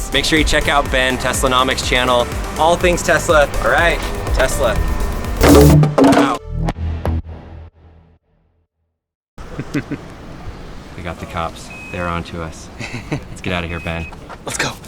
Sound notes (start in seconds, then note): 5.4 board hits ground; 9.5 laughing; 12.8 laughs